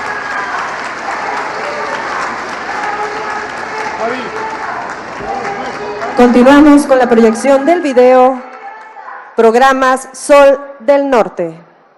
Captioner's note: applause